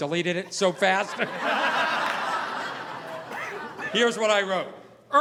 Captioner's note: audience laughing